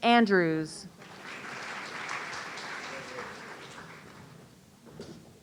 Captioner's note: audience applauding